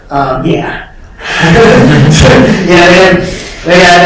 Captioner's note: laughter